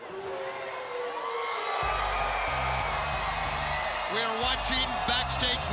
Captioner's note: crowd cheering